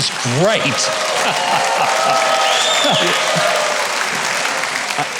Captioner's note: audience cheering